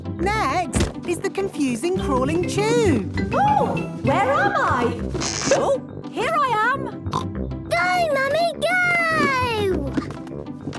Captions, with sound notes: - Next is the confusing, crawling tube! - Ooh! Where am I? - (pops) - Oh, here I am! Snort! - Go, mummy, go!